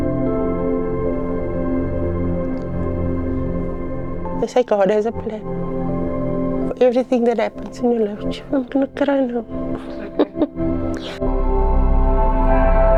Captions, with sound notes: (upbeat music) They say God has a plan. Everything that happens in your life, child, not crying. (laughing)